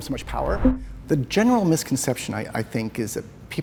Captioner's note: voice-over